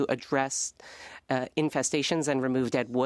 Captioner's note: speaking French